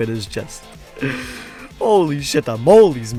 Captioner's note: inhales